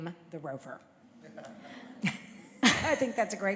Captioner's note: laughter